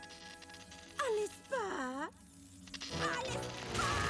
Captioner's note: sweetly